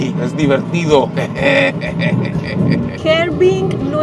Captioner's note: satisfaction laughter